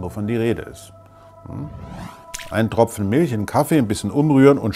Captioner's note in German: Platsch